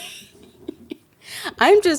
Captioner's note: laughs